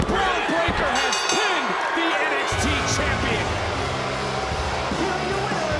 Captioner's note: crowd booing; bell rings